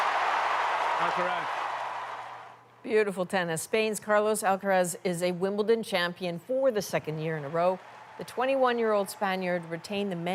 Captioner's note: cheers and Applause